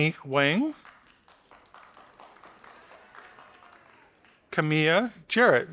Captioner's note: audience applauding